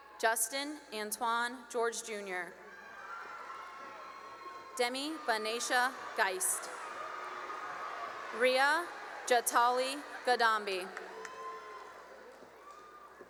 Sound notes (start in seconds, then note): 3.4 cheering; 7.1 cheering; 10.6 cheering and applause